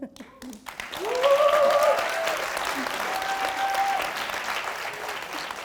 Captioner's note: audience applauding